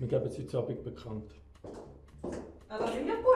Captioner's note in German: High Heels Geräusch